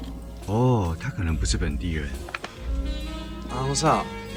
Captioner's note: voiceover in Mandarin